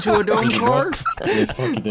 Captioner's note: laughs; laughs intensely; laughs with vigor